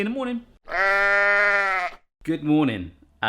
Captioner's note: sheep bleats